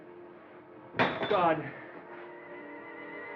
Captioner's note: glass Clatters